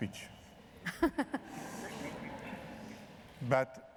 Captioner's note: laughter